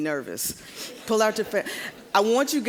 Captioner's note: audience laughing